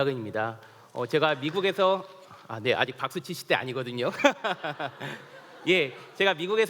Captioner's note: laughs